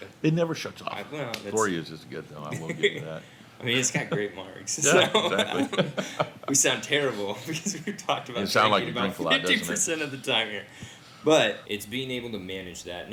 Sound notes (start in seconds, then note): 2.5 chuckles; 4.8 hosts chuckle